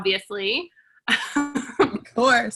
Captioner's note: laughing